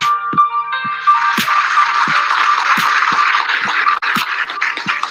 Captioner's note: upbeat music; crowd clapping